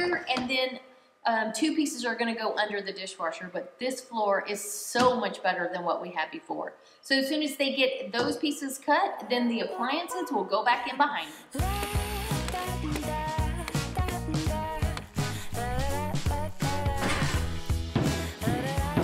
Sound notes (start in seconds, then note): 11.5 soft calm music; 12.7 hammer banging